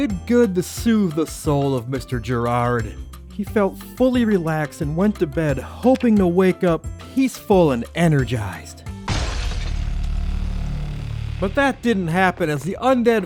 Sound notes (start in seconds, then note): 9.0 breaking glass